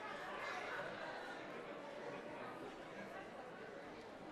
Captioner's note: audience talking